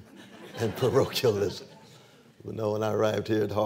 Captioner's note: laughter